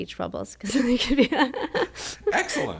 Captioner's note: laughs